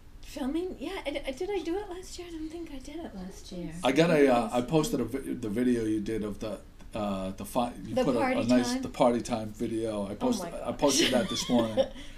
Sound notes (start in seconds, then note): 0.0 voiceover; 3.8 voiceover; 8.2 voiceover